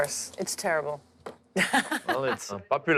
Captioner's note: laughing